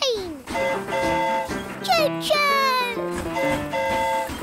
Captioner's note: train horn hooting